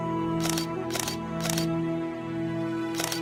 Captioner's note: gentle music; camera clicking; gentle music continues